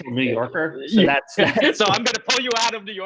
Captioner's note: chuckles